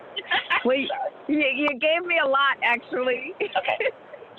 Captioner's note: laughs